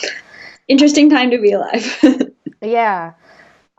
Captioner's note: laughs